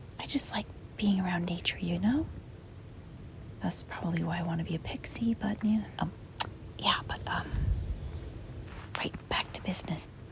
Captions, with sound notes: I just like... ... being around nature, you know? Thus, probably why I want to be a pixie, but, eh... Um! *smacks lips* Yeah, but, um... Right. Back to business.